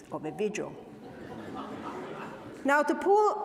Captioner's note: audience laughs